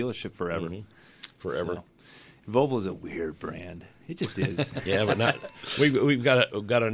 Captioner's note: laughs